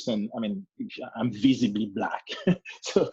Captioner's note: laughs